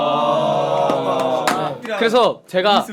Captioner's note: applause